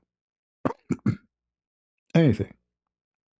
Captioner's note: berdehem